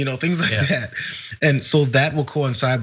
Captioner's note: laugh